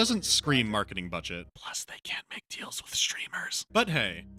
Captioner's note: whispering